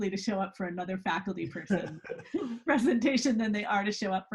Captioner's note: laughs